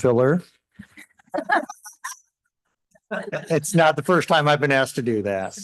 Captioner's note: laughter